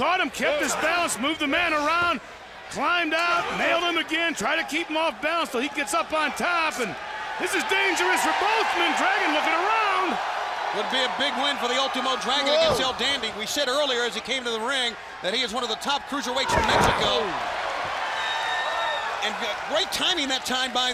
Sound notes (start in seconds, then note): 17.0 crowd cheering